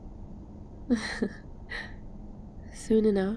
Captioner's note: laughs